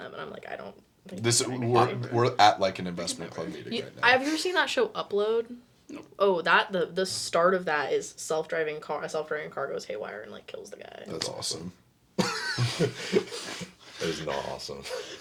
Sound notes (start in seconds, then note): 12.2 laughing